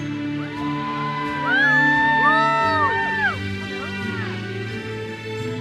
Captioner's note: audience cheers and applauds